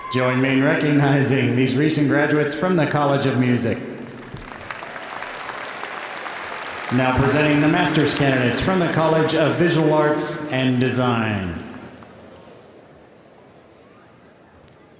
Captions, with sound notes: - Join me in recognizing these recent graduates from the College of Music. (audience applauding) Now presenting the masters candidates from the College of Visual Arts and Design.